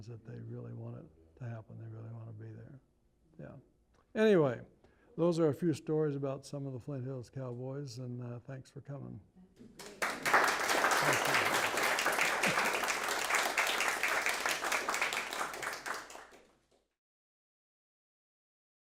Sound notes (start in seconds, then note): 14.1 applause